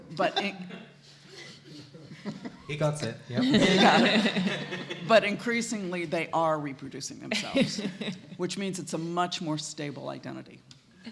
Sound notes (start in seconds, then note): 2.4 light laughter; 3.4 laughing